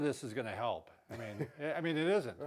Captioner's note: laughs